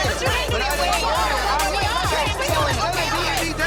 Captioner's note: people yelling at once